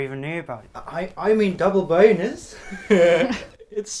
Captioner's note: laughs